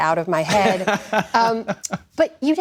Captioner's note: laughter